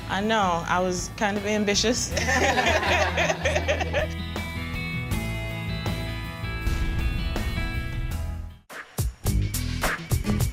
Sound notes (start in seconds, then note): 2.1 laughter